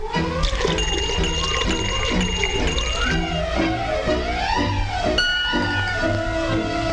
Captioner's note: liquid gurgling; bell dinging